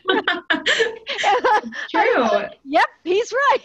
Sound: laughter

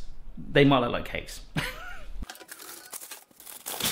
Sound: laughing

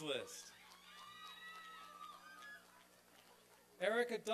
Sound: applause and cheering

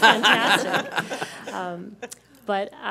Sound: laughter

